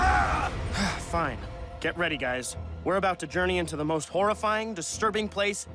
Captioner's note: grunting and yelling